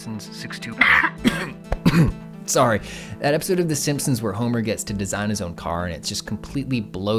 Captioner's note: cough